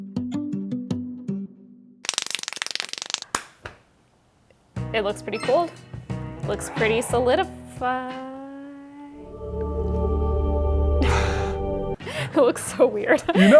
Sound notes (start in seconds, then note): 2.0 hands clapping rapidly; 9.2 angelic music